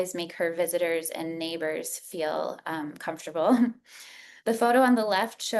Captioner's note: chuckles